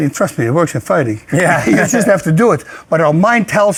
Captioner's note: laughs